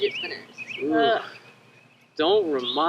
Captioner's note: students sigh